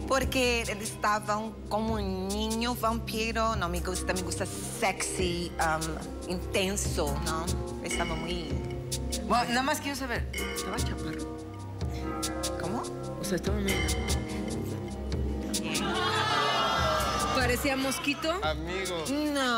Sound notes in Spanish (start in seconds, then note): 11.0 Susurra; 17.8 Exclamaciones